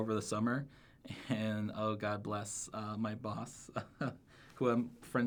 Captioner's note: laughs